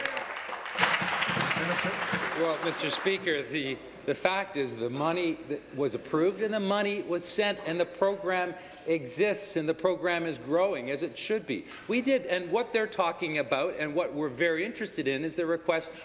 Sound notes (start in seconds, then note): 3.3 applause